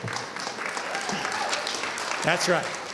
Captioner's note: audience cheering and clapping